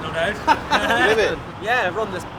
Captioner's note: laughter